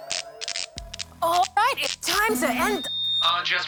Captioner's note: audio crackles